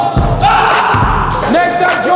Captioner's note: dunk sound; cheers; ball bouncing